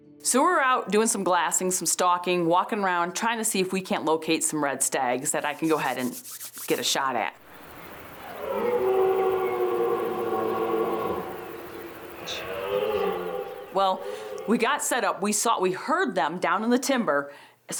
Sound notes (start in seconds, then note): 5.2 hands rubbing; 8.0 stag roaring